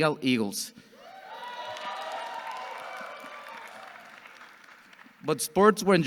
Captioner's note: audience cheering and clapping